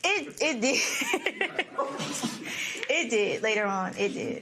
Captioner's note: laughs